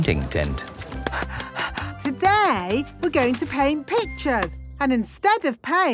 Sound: panting

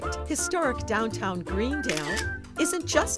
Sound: camera shutter clicking

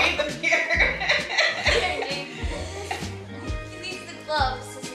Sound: laughing

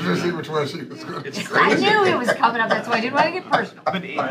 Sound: laughter

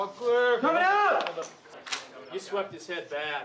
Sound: voiceover

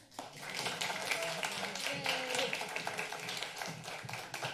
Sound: applause

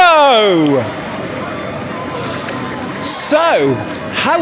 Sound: cheers for crowd

